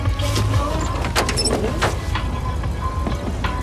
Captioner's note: car revs